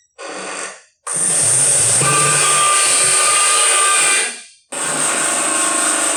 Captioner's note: power tools whirring